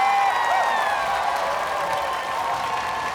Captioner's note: cheering, applause